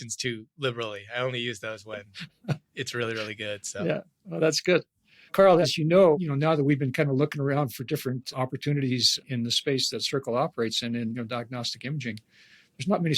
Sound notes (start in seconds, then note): 3.0 laughs